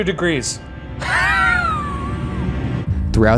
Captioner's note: laughing